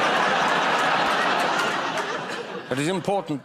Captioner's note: laughter